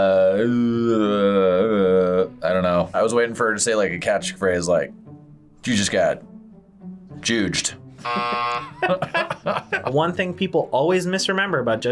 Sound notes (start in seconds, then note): 8.0 both laugh; 8.0 buzzer rings